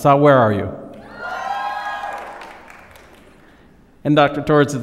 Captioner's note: applause